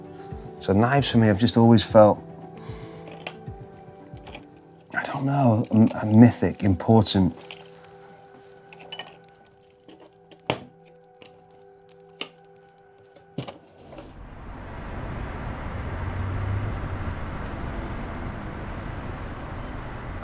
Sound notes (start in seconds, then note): 7.4 gentle music; 13.7 traffic humming; 17.3 soft music